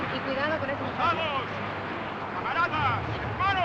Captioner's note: speaking Spanish; man Orating In Spanish